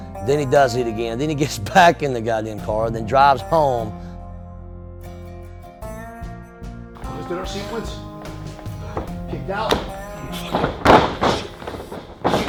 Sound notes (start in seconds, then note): 4.3 instrumental music playing; 10.4 thump; 10.5 thudding sound